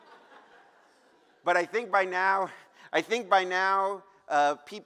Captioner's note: laughter